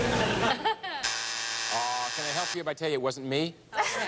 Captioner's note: buzzer sounds